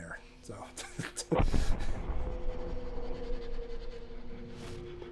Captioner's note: thunderous booming